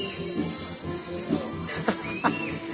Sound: laughs

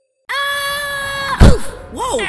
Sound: Sticky Screaming

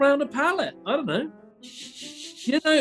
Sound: sniggering

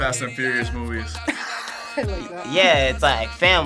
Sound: laughs

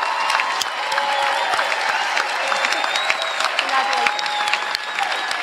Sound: applause

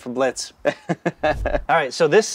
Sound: laughing

